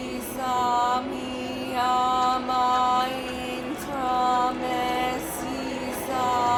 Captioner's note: chanting repeats